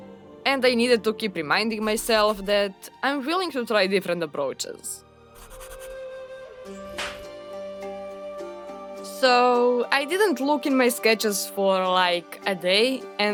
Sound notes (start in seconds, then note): 6.9 slap